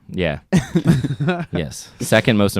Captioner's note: laugh